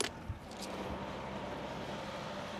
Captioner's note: near excavator hum